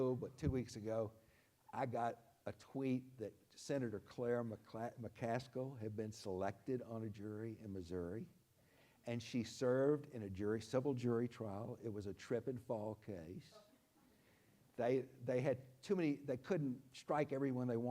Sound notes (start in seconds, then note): none